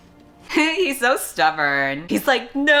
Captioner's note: laughs